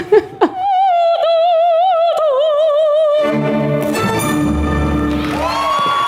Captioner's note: opera music; audience cheering